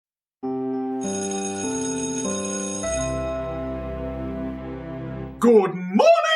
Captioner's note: school bell rings